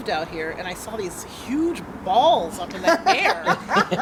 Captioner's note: laughter